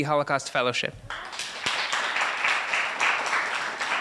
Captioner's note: applause